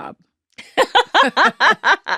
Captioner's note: laughing